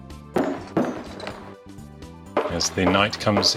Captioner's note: video game noises